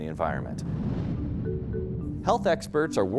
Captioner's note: rocket whooshing